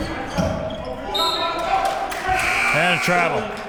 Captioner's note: whistle blows